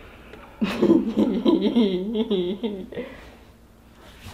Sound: laughs

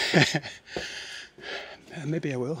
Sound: laughs

